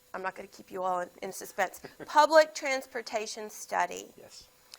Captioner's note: laughs